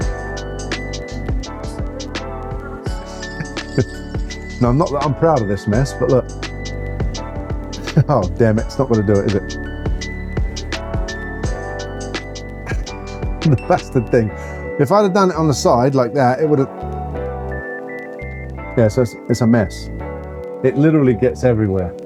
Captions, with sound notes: No, I'm not, I'm proud of this mess, but look. Oh, damn it, it's not gonna do it, is it? (laughs) That's the thing, if I had done it on the side like that, it would have, yeah, so it's a mess. It literally gets everywhere.